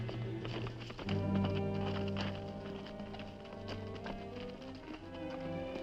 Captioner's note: horse hooves clopping